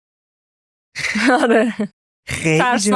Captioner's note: laughs